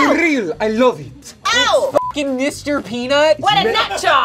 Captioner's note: beep